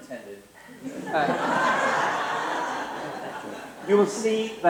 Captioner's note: laughter